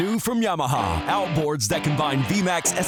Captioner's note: voiceover